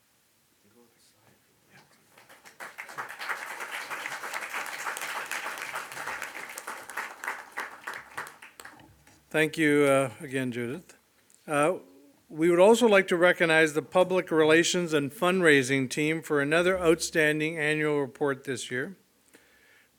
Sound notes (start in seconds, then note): 1.9 audience applauds